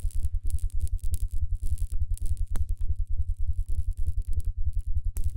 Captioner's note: low mechanical humming; humming and buzzing